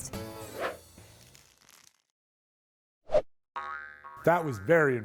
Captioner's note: screen whooshing